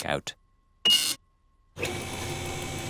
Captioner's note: beeping